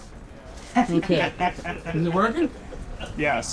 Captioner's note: laughs